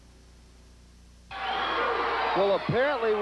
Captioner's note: crowd cheering